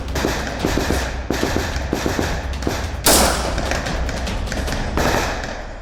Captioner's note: gun shots